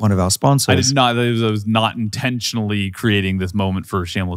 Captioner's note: stammers